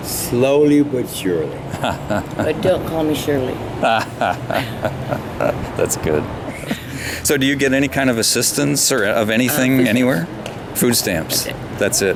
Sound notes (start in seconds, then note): 3.8 everybody chuckles